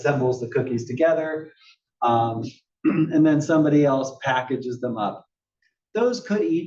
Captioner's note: cough